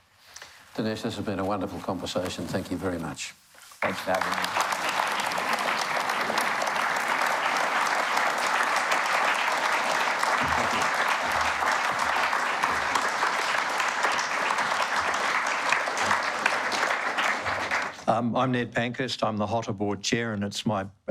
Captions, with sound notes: Dinesh, this has been a wonderful conversation. Thank you very much. Thanks for having me. (Applause) I'm Ned Pankhurst, I'm the HOTA Board Chair,